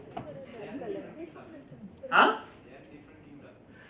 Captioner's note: murmur in the crowd